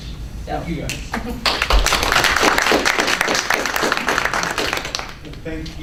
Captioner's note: clapping